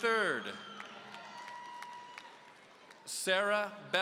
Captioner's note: audience cheering